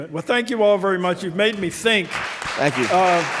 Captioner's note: audience clapping